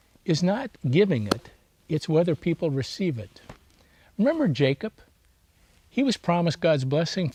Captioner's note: taps table